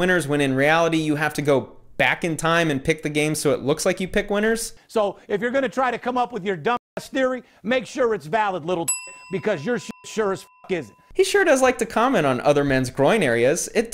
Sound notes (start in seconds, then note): 8.8 dinging